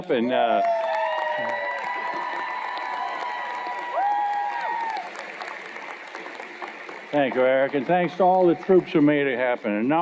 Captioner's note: cheers and Applause